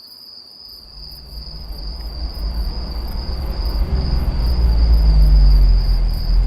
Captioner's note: crickets chirping